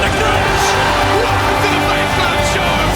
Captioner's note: crowd cheering